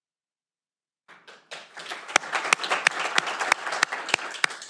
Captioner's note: audience applauding